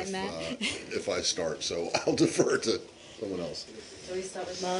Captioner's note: laughter